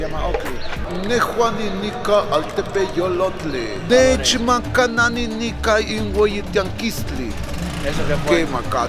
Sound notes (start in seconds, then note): 2.5 in Nahuatl; 4.0 speaking in Nahuatl